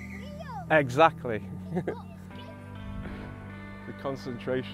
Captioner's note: laughs